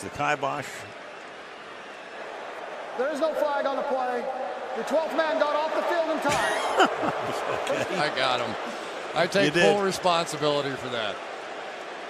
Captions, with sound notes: Kih-bosh, the Ki-bosh. There is no flag on the play. The 12th man got off the field in time. [laughing] OK. I got them. I take full responsibility for that.